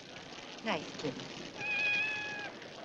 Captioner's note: cat meows